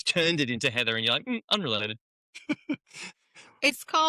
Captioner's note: laughs